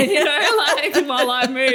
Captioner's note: laughter